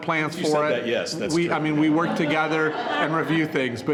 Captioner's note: all laughing